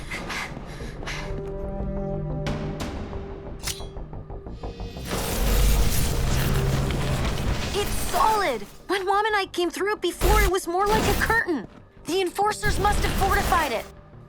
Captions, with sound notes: [suspense music] [magical buzzing] It’s solid! When Mom and I came though it before, it was more like a curtain. The Enforcers must have fortified it.